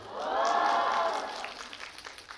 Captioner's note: cheers